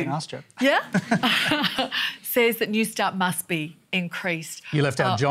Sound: laughs

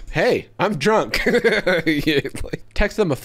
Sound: laughing

